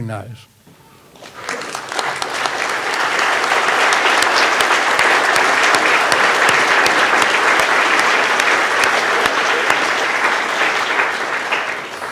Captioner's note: all clapping